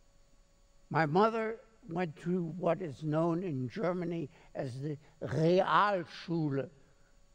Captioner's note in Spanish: hablando alemán